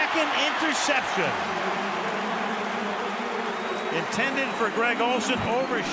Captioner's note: cheering